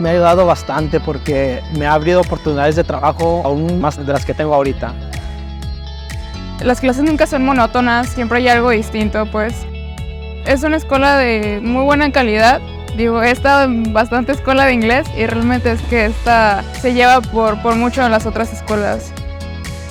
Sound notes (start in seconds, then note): 0.2 speaking in foreign language; 6.9 speaking in foreign language